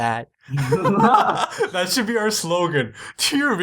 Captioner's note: laughter